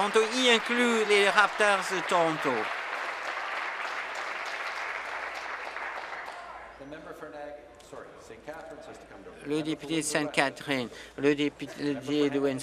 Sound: applause

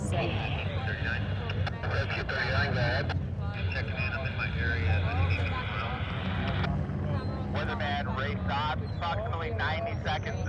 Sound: guy radios in

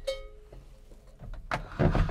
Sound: ringing

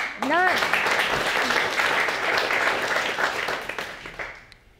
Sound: audience applauding

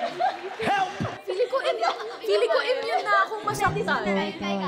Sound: background arguing

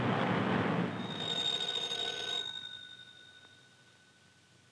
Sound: traffic roaring; phone ringing

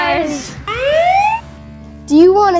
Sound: police siren

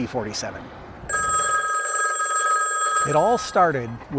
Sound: phone ringing

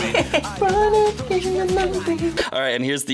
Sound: vocalizing

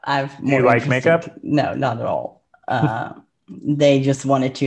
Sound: chuckles

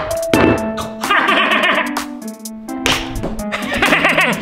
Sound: Grinch laughing

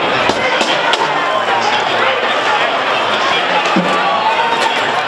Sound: crowding shouting

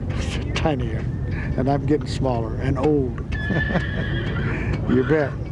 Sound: laughs

